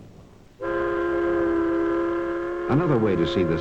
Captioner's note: horn blowing